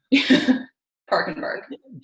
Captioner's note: laughs